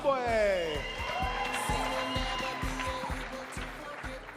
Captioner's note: audience cheers